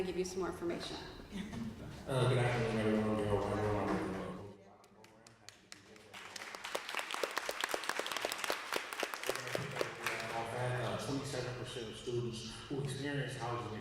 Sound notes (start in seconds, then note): 6.3 applause